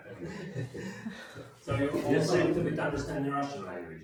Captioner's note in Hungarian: nevetés